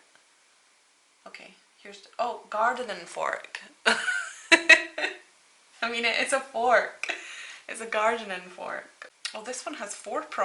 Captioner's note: laughs